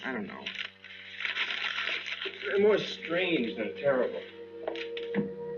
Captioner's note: crumples paper